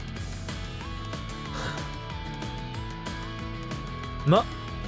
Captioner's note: sigh